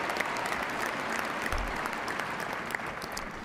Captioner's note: cheers and applause